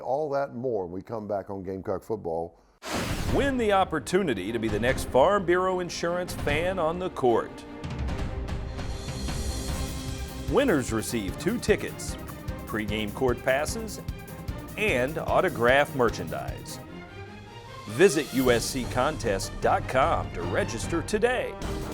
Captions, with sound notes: All that and more when we come back on Gamecock Football. - [Voiceover] Win the opportunity to be the next Farm Bureau Insurance Fan on the Court. Winners receive two tickets, pre-game court passes, and autographed merchandise. Visit USCcontest.com to register today.